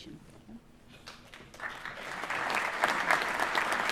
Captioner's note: applause